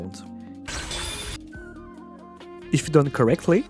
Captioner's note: high-pitched noise